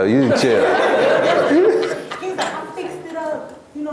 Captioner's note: laughs